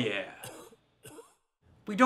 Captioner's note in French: toux grasse